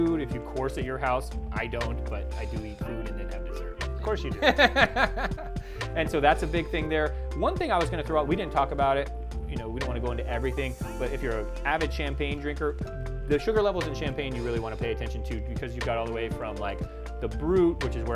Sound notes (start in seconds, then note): 4.3 chuckles